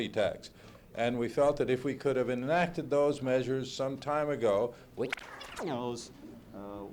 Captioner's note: camera noise